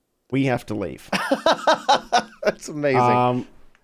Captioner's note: laughs